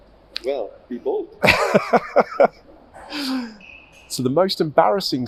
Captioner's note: laughs